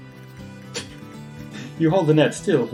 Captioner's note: laughs softly